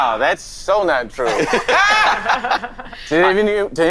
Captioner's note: all laughing